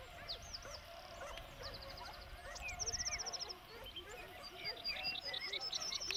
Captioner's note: birds calling; dogs barking